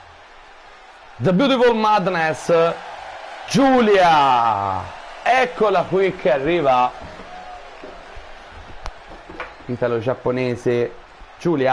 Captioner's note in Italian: Applauso